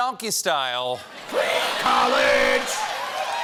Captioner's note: applause